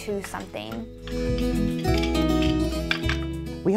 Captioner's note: loom rattles